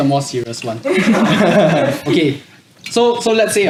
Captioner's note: laughs